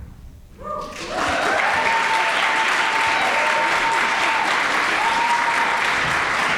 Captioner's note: audience cheering and applauding